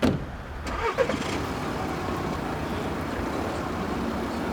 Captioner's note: car engine starts